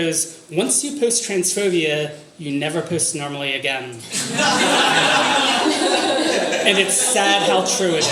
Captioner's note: audience laughter